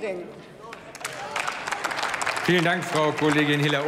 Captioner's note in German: Applaus